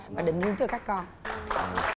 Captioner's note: applause